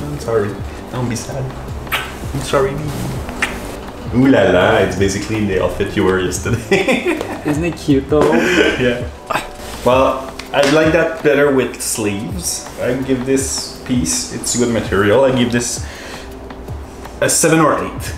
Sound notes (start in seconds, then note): 3.2 kissing sound; 6.4 laughs